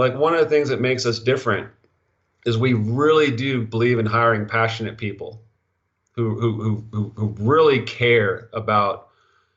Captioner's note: stutter